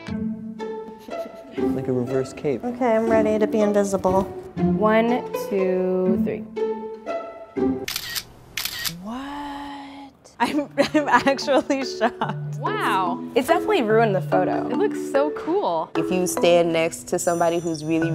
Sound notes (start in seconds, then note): 0.2 curious music; 8.5 camera shutter